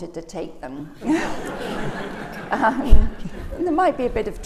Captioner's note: laughter